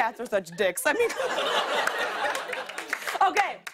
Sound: laughter

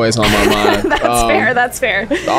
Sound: laughs

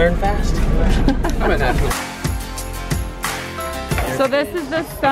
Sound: laughs

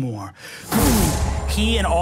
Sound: air whooshing

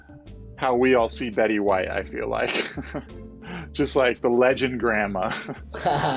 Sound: chuckles; chuckles

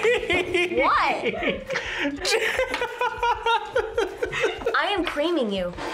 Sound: laughs

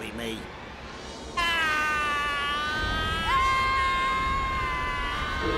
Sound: both screaming

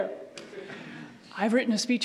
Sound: audience laughs

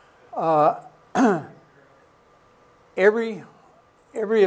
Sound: clears throat

